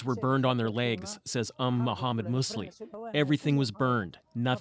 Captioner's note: speaking alternate language